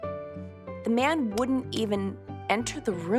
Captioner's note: clapping